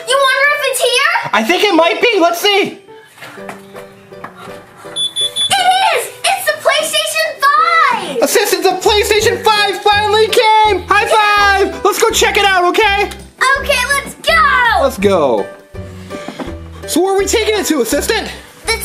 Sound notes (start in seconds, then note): 4.8 beeping; 4.9 upbeat music